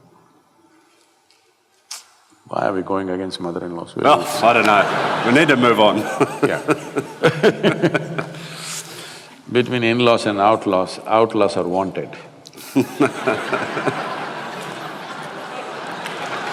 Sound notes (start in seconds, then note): 7.8 both laugh; 12.5 laughter/Applause